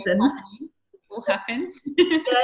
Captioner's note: microphone cutting out